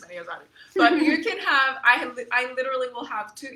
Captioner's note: chuckles